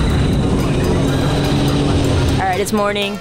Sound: Sea-Doos revving

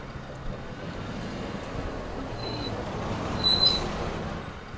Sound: brakes squeal

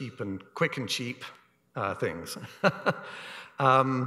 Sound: laughs

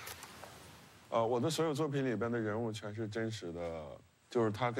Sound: speaking Chinese

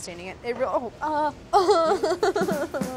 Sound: laughing

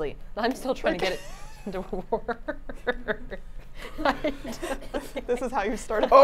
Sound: laughs

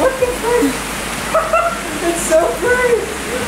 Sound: laughing

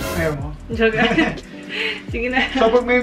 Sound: chuckling

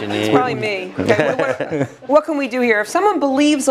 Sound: laugh

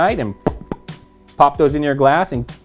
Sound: popping

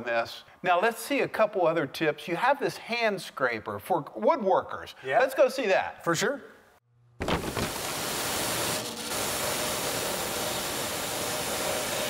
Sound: saw whirs

